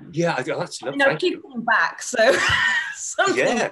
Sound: laughs

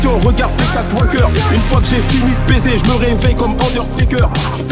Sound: boom

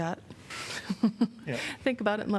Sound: laughter

